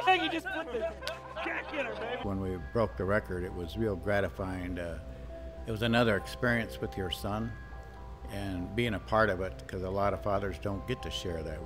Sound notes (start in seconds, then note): 0.0 men cheering; 1.1 men screaming